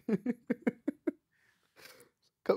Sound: laughing

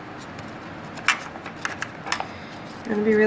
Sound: tools clanking

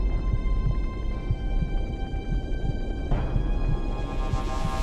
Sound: heart beats

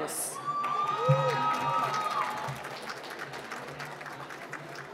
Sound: cheering and applause

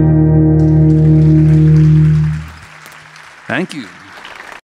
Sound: audience applauding

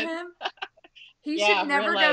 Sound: laughing

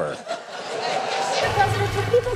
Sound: audience laughing

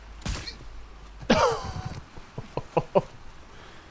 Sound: chuckle

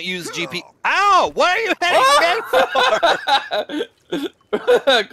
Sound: laughter

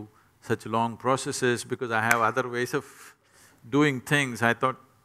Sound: claps

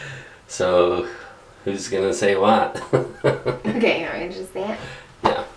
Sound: chuckles

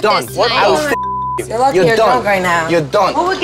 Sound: beep

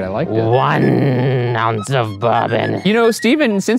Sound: imitating pirate

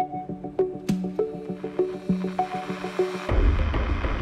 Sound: voice recorder fires followed by radio static

